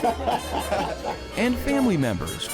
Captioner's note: crowd laughing